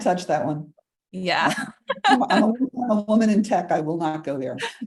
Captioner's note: laughter